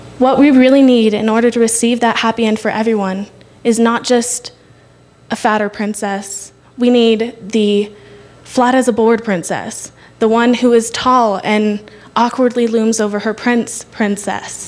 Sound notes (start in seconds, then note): none